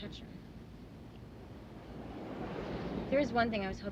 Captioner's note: traffic whirring